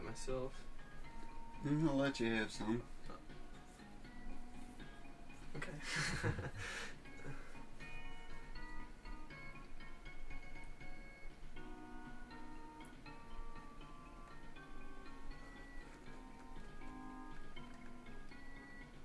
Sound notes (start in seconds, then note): 5.8 laughter